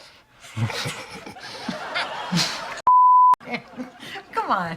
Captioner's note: laughter